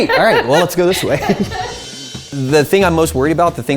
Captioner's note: laughing